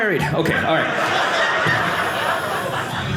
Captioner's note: audience laughing